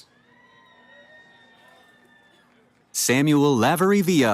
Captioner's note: cheering